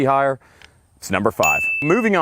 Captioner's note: bell ringing